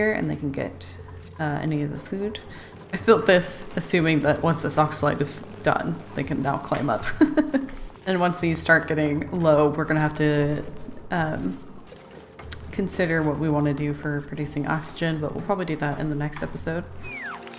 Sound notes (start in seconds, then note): 7.0 laughs